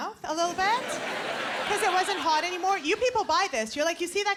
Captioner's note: laughter